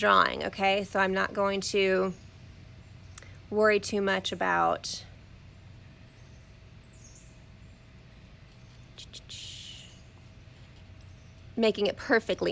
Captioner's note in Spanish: pausa